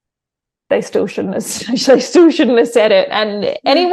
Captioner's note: scoffs